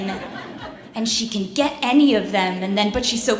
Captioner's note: laughs